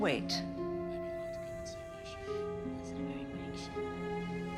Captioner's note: indistinct chatter continues